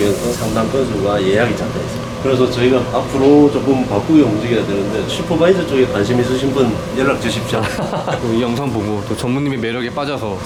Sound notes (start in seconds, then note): 7.7 laughs